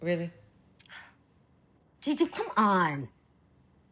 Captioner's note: sighs